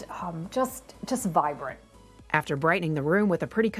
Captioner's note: none